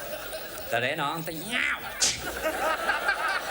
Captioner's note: imitates cat noises